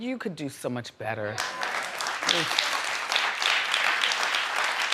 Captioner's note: audience applauding